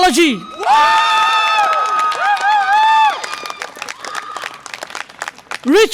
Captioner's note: audience applause and cheer